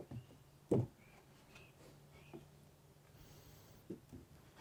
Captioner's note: wood clunking